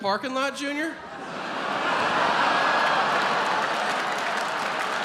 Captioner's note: audience laughs